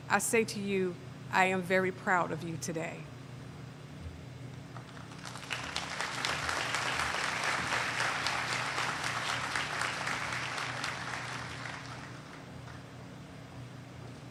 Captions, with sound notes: I say to you, I am very proud of you today. [ Applause ]